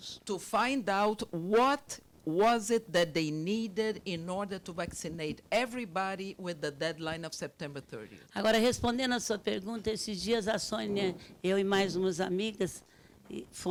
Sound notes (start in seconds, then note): 0.0 speaking Portuguese; 8.6 speaking Portuguese